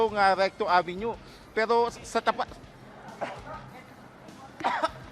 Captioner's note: catchng his breath